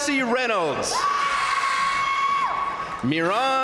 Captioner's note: crowd cheering; crowd applauding